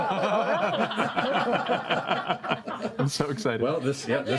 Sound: laughter

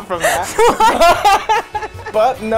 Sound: laughing

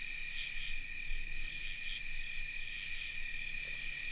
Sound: insects chirping

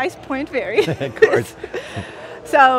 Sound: both laugh

